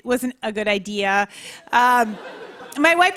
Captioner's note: laughter